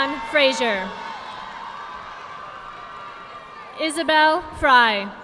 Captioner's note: audience clapping